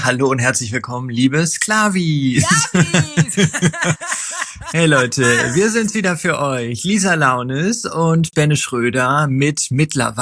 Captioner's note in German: gelächter